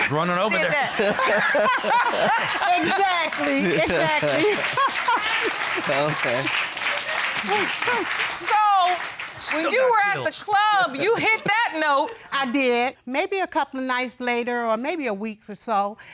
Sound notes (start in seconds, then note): 0.4 laughter; 7.1 applause continues